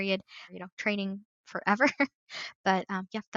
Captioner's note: laughs